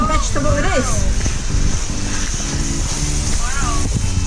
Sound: pant sizzling

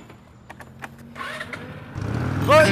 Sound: motorbike engine

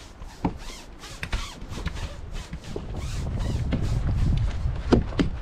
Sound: brush scraping

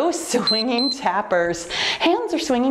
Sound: timer beeps

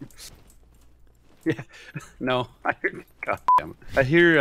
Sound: laughs

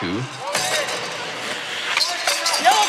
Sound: metal clanging

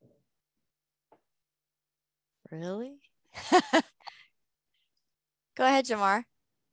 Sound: laughter

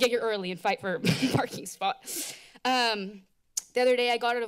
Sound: laughs

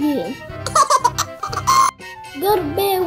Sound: laughter

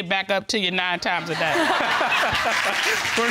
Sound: all laughing

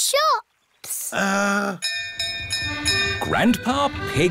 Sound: bell rings

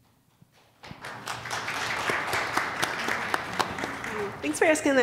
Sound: applause

